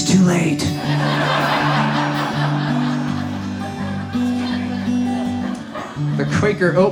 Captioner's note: audience laughs